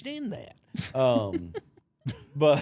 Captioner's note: blue vested woman laughing; chuckling